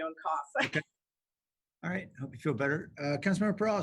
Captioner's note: laughter